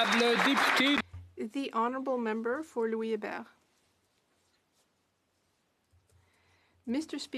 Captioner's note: applause